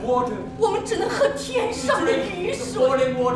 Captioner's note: speaking in a foreign language